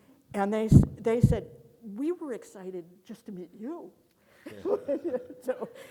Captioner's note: laughs